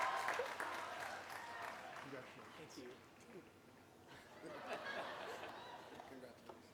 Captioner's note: applause; laughter